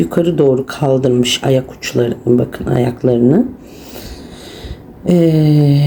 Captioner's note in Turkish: homurdanır